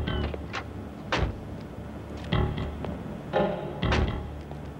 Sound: doors thudding

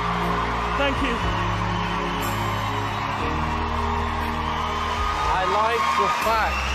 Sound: crowd cheering

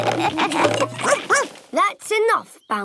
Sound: all laugh; barks

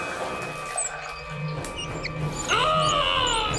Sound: knob squeaks; Desiree groaning

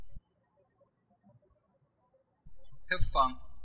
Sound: birds chirping

